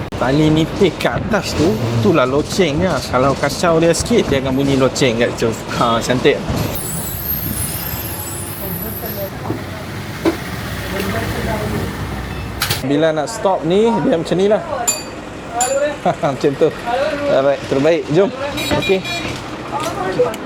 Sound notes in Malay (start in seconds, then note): 14.8 bell ring